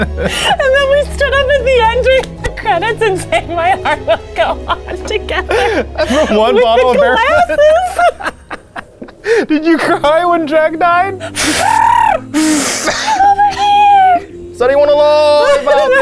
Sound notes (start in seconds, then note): 0.0 both laugh; 5.5 both laughing; 7.9 both laughing; 11.2 trills like a bird